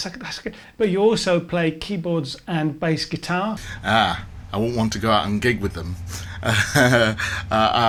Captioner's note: laughs